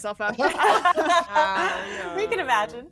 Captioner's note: all laughing